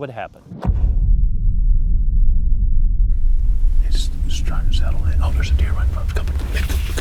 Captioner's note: whispering